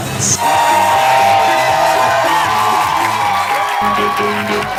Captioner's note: crowd cheers wildly!